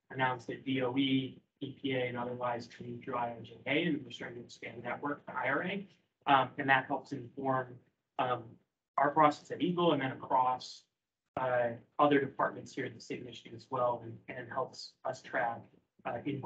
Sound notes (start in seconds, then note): 3.4 speaking faintly